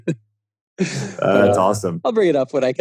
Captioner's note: laughing